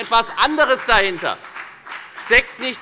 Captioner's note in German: Beifall bei der FDP